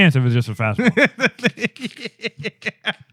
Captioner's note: laughing